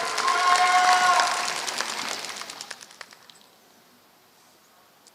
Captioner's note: applause